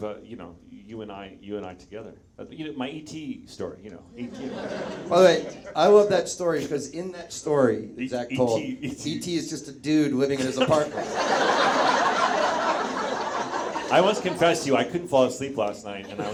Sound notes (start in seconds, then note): 4.2 audience chuckles